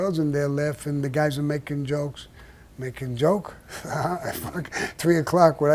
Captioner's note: Sammy laughs